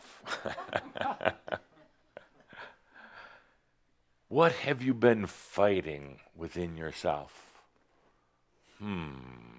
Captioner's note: Adamus chuckles